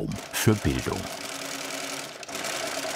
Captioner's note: rhythmic rattling